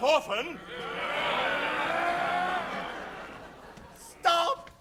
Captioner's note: pirates grumbling